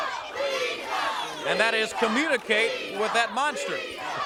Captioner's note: crowd chatter